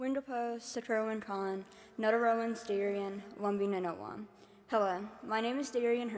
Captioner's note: speaking in foreign language